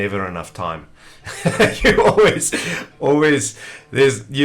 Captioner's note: chuckles loudly